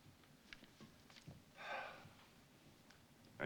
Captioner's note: sighing